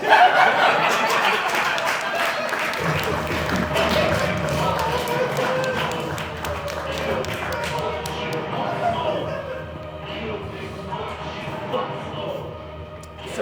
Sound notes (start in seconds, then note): 0.2 audience Laughing; 3.8 audience Applauding